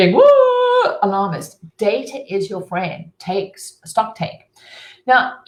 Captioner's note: screaming